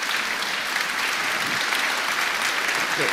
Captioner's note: applause